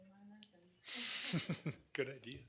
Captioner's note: laughs